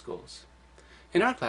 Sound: pause

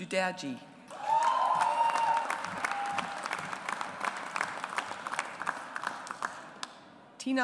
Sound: audience applauds

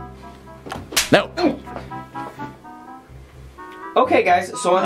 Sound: slapping hand

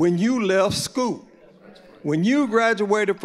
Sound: audience agreeing

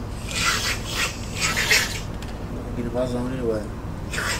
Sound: man snorting

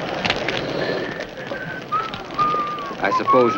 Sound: judge whistling

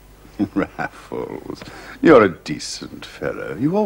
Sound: chuckling

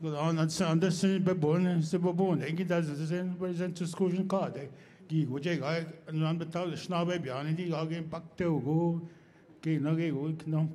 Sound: speaking Indigenous Language

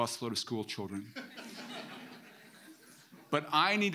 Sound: audience laughing

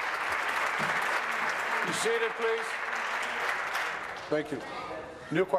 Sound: applause

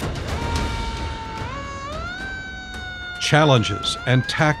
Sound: siren sounds

